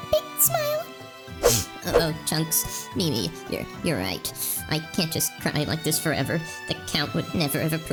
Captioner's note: sniffs